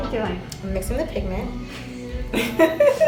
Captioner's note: laughing